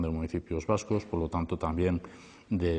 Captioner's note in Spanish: voz en off del Lehendakari